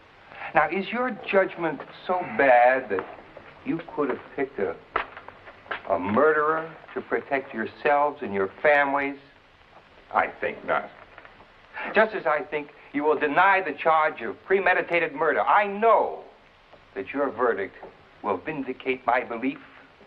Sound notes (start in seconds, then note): none